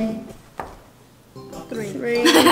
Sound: thud; laughs

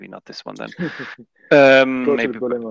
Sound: laughs

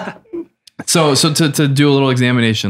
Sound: laughter

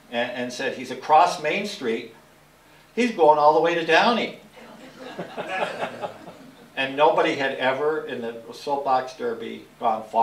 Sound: laugher

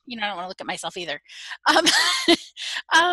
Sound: laughing

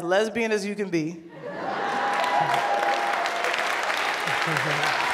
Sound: laughter and applause

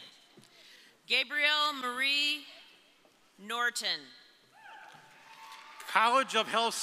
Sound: audience applauding

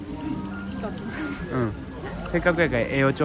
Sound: laughs

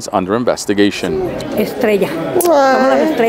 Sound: crowd chattering

